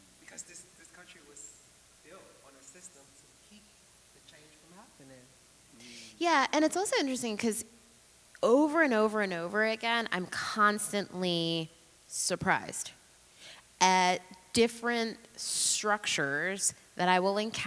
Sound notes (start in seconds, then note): none